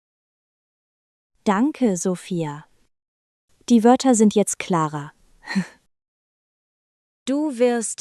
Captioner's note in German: lacht